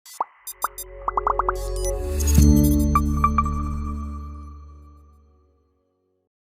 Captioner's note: logo popping; gentle music